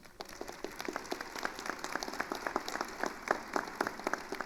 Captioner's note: attendees applauding